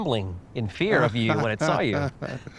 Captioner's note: chuckles